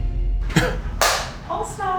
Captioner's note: hands clapping